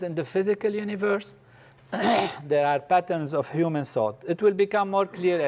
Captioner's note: cough